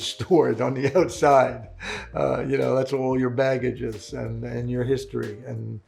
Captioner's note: laughing